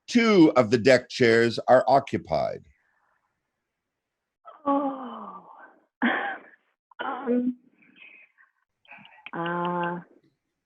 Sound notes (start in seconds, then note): 4.5 sighs